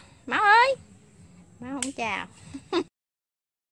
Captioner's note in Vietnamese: Tiếng cười hihi